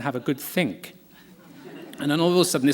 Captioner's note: laughter